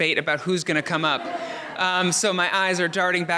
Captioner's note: audience laughs